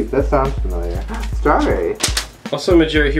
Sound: gasps

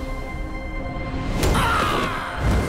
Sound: screaming

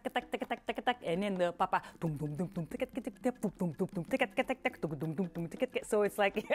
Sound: voicing drumming sounds

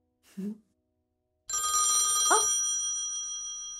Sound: phone rings

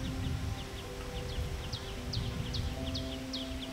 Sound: bird chirping

